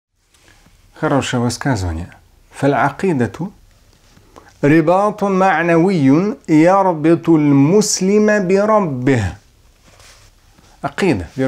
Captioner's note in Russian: Говорит на арабском